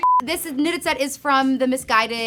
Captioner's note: beep